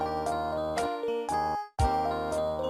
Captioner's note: none